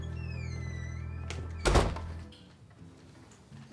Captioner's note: door creaks